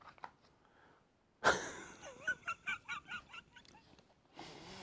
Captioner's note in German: Kichert